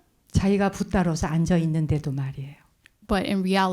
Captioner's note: speaking in Korean